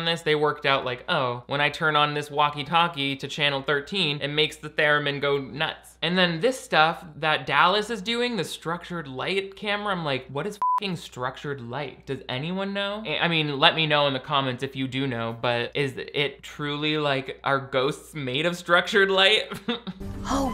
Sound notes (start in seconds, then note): 10.6 beep